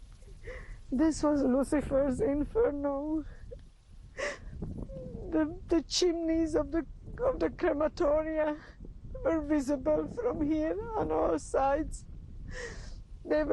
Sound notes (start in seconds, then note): 4.9 crying